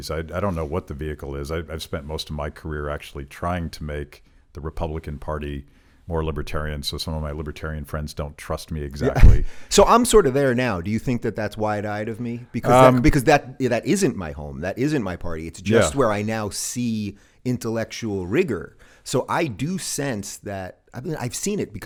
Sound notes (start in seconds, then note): 9.0 chuckles